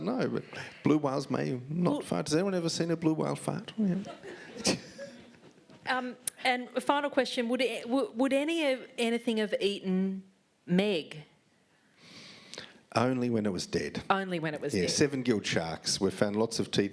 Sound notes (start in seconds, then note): 4.0 laughter